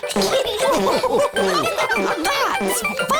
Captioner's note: giggles; laughter